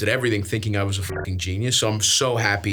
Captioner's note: beeps